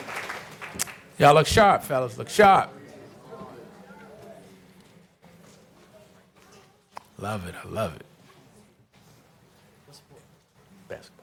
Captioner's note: applause